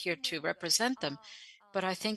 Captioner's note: speaking French